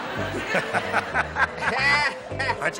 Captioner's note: laughter